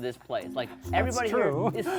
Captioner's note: laughing